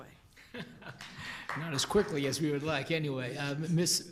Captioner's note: applause